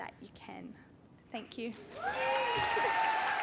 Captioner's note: cheering